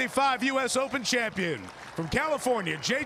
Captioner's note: applause